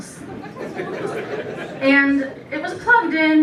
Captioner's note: laughter